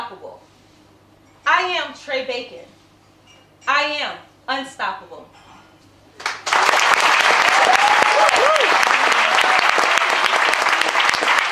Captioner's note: applause and cheering